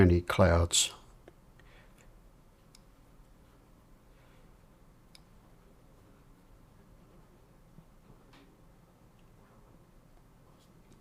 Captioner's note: silence